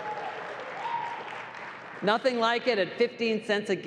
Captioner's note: applause